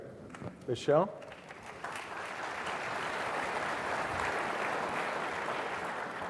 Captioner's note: applause